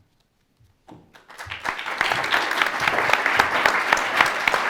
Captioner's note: audience clapping